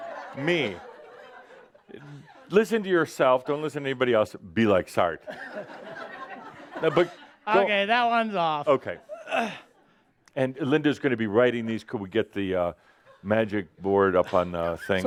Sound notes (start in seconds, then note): 0.0 more laughter; 5.3 more laughter